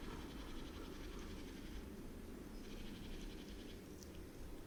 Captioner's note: szum wiatru, głosy sikor